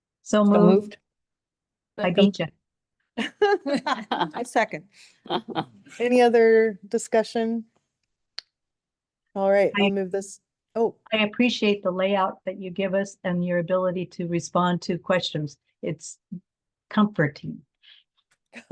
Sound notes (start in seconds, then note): 3.2 board members laughing